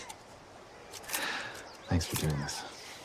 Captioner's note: snapping photos